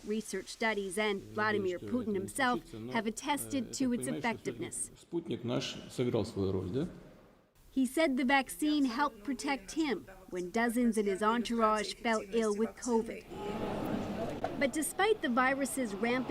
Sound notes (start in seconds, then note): 10.1 speaking Foreign Language